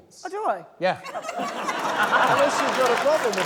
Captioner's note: laughter, applause